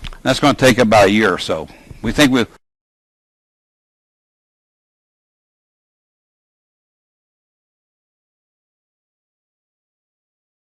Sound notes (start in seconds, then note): 3.6 silence - technical difficulties